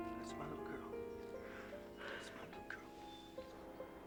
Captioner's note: edie sighs